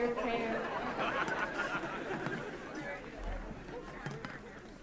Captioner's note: attendees laughing